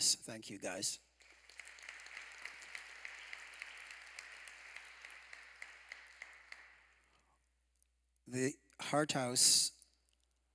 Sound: applause

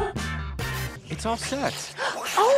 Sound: disgusting schlurping

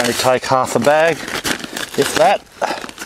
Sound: package crackles

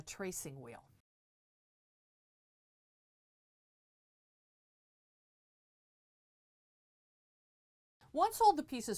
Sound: no Sound Present

